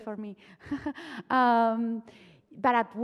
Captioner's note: chuckles